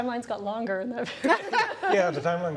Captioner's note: laughter